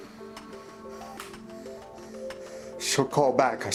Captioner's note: Billy Ray pants